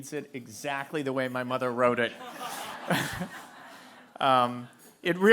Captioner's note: laughter